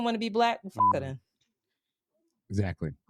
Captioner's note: beep